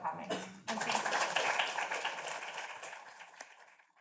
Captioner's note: audience claps